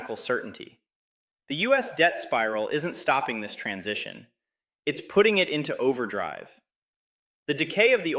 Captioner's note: excited